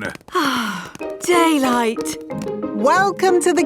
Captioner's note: sighs